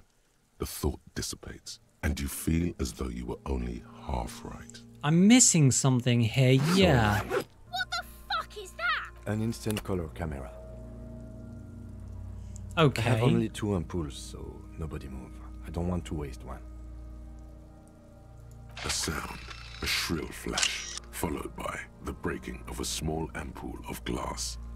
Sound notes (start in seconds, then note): 6.6 zipper sound; 18.7 old camera snap SFX; 18.8 flash SFX